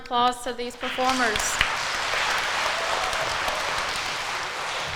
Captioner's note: crowd applauds